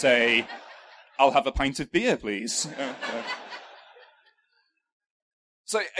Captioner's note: laughter